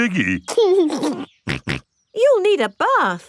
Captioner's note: giggles and snorts